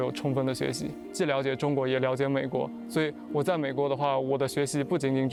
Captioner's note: speaking chinese